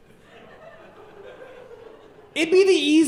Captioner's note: audience laughing